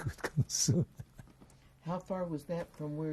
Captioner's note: laughs